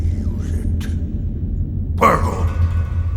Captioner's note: SFX Battle sounds